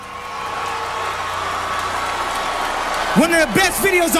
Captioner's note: audience yelling